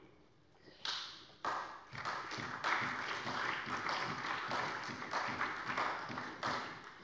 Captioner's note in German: Beifall bei der SPD